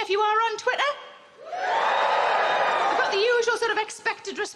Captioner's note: crowd cheering